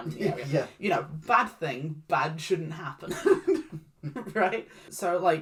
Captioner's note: chuckles